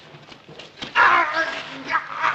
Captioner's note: moaning